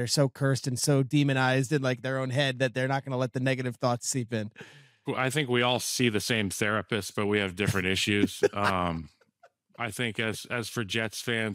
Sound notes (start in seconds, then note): 7.0 laughs